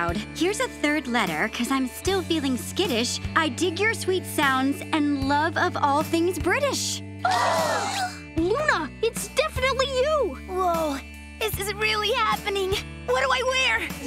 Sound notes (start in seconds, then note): 7.3 gasping